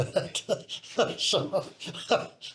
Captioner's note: laughs